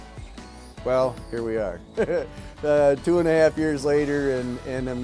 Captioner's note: laughs